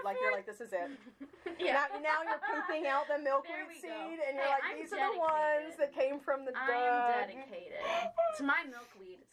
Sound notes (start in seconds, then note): 0.8 laughing